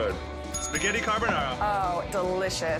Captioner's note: bell rings